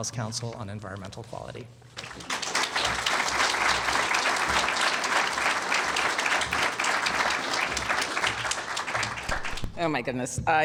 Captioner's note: applause